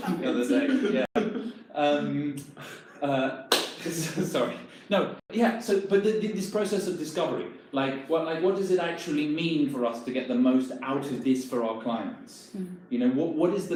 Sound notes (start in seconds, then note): 3.8 laughing